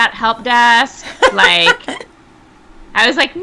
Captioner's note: laughing